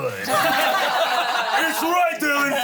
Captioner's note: everyone laughs